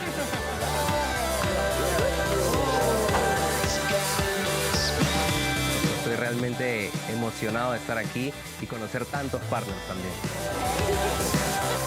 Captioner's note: speaking spanish